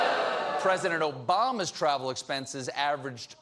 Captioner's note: audience reacts